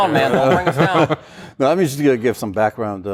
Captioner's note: laughter